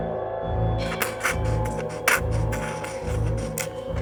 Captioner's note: the scrape of a pen on paper